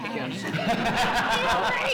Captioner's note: laughs